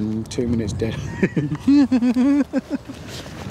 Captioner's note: both giggle